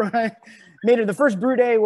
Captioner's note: laughs